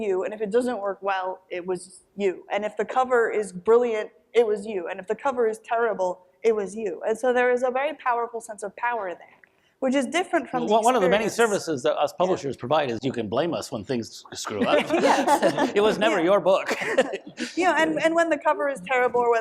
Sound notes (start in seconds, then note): 14.4 panel laughs